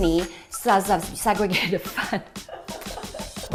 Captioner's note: laughs